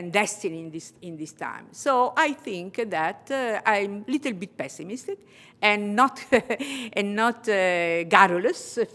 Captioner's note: laughter